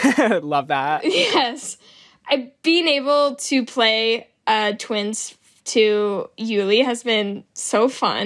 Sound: laughs

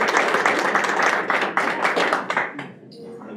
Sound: applause

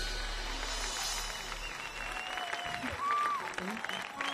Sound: audience applauds

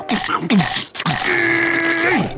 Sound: growling

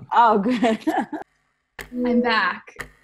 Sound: laughs

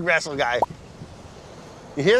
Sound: bubble popping

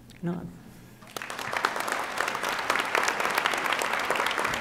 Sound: audience applauding

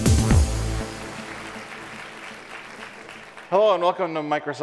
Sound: audience applauds

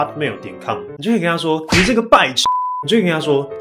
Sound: beep

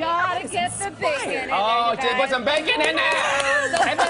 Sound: applause

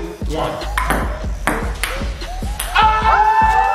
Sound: ball tapping; all yelling

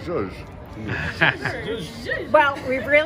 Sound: laughs

